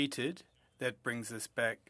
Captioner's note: speaking French